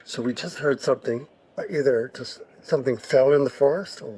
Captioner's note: none